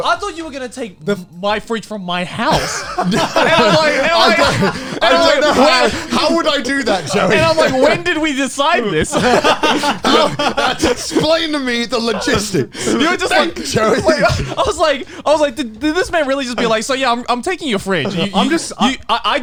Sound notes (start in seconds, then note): 2.4 laughing; 4.3 laughs; 8.9 laughing; 14.1 laughs